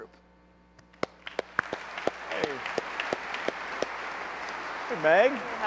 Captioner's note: applause